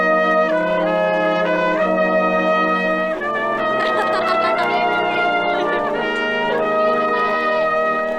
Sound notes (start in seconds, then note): 3.6 audience member laughing